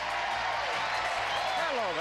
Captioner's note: audience applauding